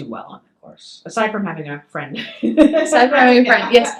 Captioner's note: laughs